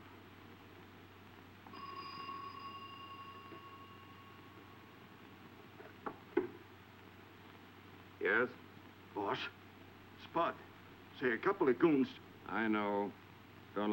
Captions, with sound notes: (telephone ringing) - Yes. - Boss, Spud. Say, a couple of goons- - I know.